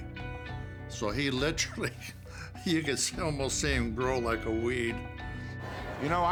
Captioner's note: laugh